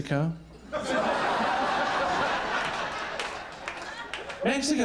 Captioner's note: all laughing